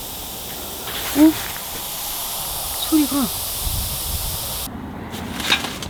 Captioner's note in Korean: 바람이 급속도로 빠지는 것 같은 소리